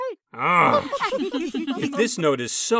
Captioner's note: contestants giggle